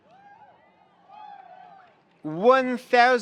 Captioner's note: attendees applauding; attendees cheering